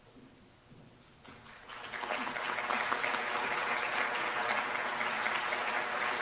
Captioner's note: applause